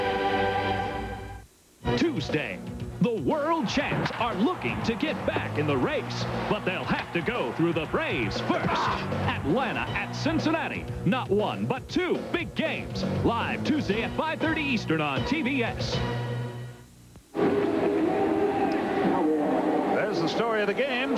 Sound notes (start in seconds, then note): 8.4 groan; 17.3 ambient stadium noise